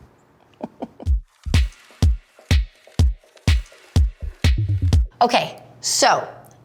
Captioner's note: Ellen giggling; upbeat music